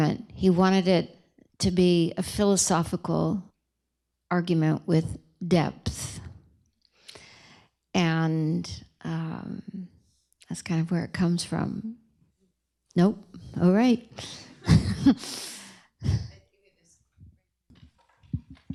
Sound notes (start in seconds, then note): 14.3 laughs